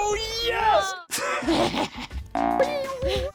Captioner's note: laughs; boing